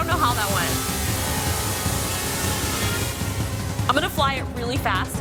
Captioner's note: drone rotors whining; tense music